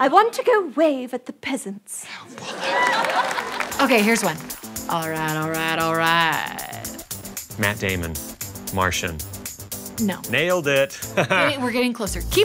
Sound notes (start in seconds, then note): 2.4 cheering